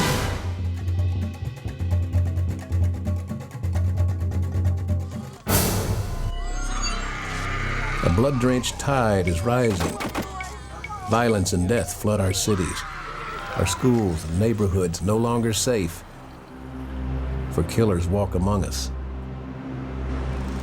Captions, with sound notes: (upbeat folk music) (woman yelling) - A blood-drained tide is rising, (guns fire) violence and death flood our cities, our schools, neighborhoods no longer safe, for killers walk among us.